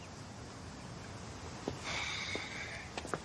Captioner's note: sighs